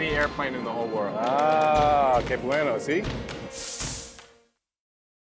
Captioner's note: speaking Spanish